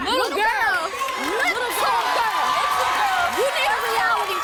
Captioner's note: cheering